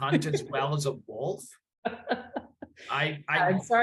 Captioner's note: laughs